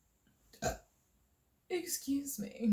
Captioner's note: ugly burp